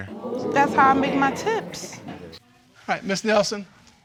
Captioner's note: audience exclaims